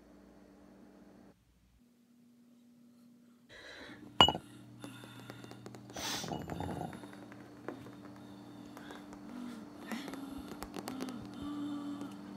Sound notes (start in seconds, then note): 6.0 heavy, strained breathing